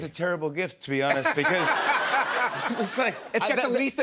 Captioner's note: laughter